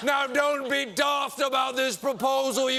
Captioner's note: wild scottish accent